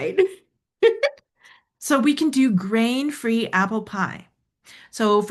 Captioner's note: laughs